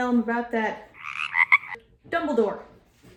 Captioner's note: ribbit